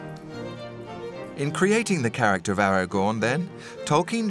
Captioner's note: classical violin music; voiceover